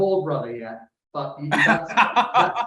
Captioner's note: chuckles